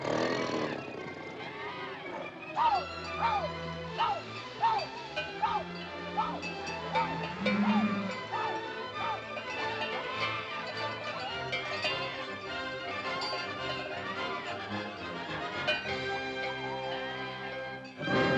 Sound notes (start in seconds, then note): 0.0 cacophony of animal noises; 0.0 suspenseful music; 2.6 Mowgli whooping; 2.7 dramatic music; 7.0 water buffalo mooing; 9.5 dramatic music; 17.9 tiger growling